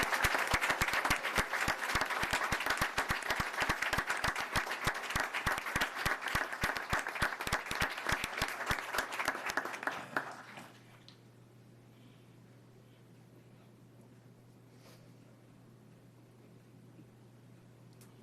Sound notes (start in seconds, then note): 5.4 applause